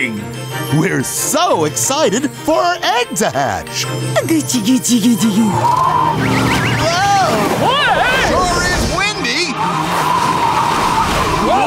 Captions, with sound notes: We're so excited for our egg to hatch. [baby talking] [wind blowing] It sure is windy.